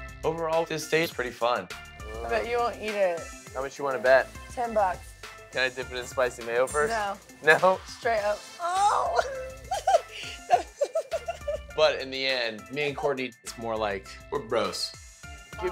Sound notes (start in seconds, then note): 9.1 chuckles